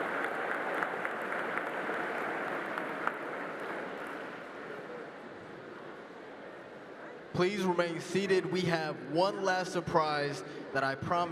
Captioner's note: applause